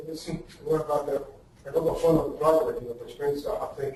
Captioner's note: distorted speech